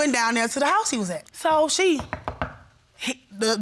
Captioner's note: knocks